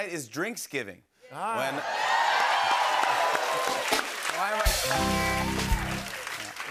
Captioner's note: cheers and applause